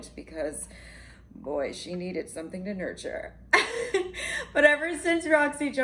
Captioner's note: laughs